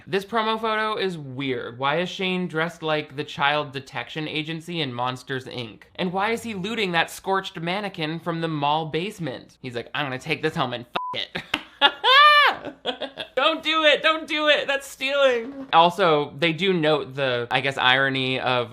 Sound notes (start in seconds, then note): 11.0 beep; 11.2 laughing